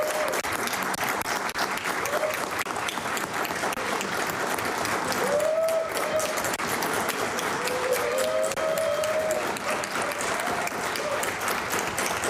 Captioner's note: cheering & Applause